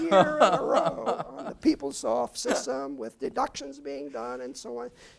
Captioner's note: laugh